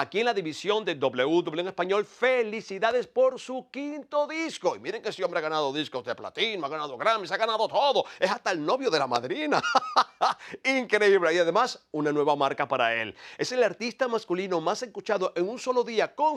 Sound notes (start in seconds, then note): 9.5 laugh